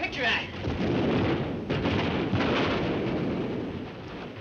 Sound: artillery firing

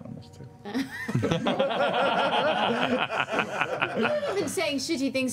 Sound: laughter

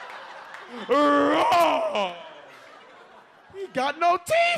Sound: audience laughs; roars like a lion

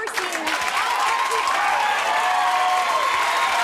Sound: applause

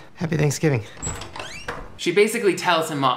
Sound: door opens

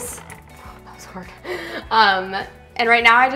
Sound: chuckles

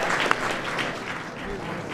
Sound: applause

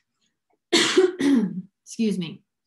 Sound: coughs

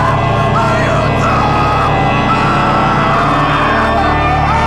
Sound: more screaming

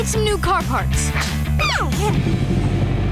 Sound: cooing

